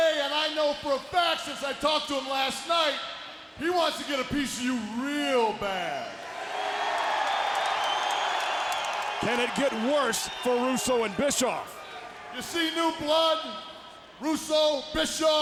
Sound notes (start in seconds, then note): 6.1 audience cheering